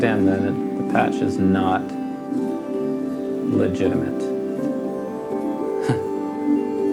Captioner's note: laughs